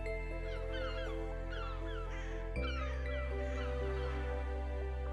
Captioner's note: seagulls cooing